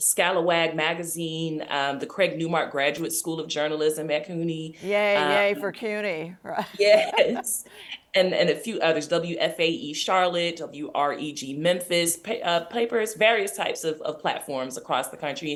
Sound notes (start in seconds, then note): 7.3 laughs